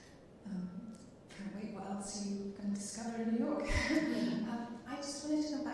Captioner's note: chuckling